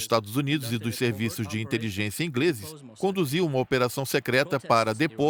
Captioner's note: speaking in a foreign language